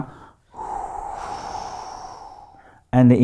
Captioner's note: air blowing through mouth